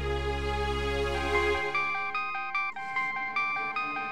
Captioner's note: phone ringing